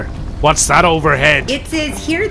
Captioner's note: map sounds